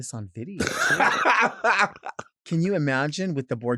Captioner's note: laughing